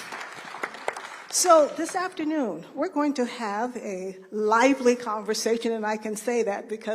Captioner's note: applause